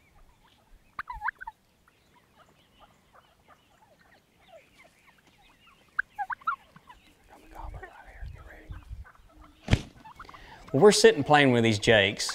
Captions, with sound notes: (turkeys chirp) There's a copper out here, be ready. Well, we're sitting, playing with these jakes.